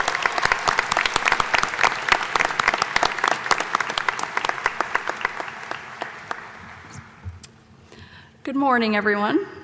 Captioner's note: applause